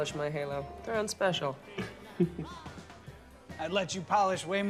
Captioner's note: Gabe laughs